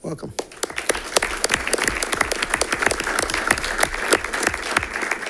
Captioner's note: audience applauding